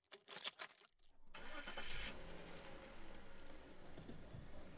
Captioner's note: keys clink; car starts